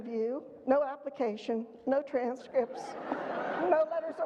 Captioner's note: audience laughter